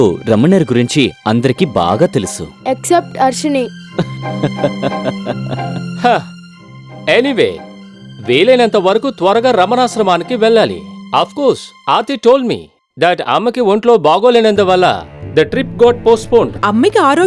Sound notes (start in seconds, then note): 4.0 laughs